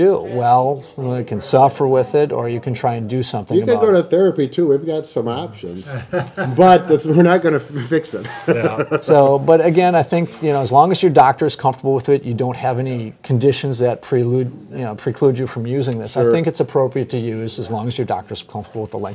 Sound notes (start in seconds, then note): 5.8 everyone laughs